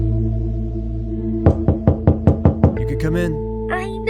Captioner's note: knocking